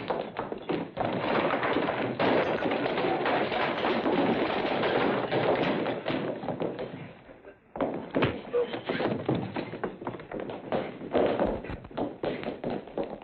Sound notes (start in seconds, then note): 2.9 chairs clattering; 8.1 punch; 10.6 scuffling